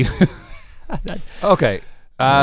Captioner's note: Link laughing